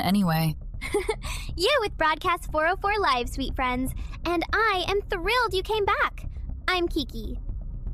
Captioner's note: chuckles